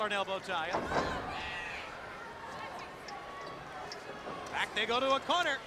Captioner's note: ring thuds